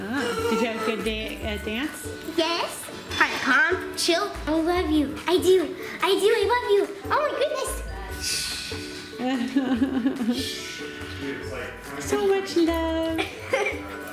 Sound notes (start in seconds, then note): 9.1 laughs